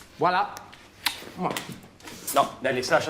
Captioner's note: smooches